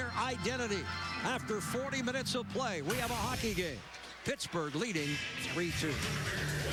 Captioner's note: horn blaring